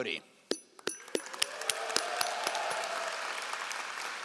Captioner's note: all applauding